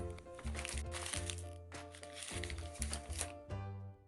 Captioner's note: paper crinkles